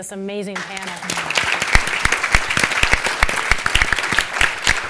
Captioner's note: audience laughing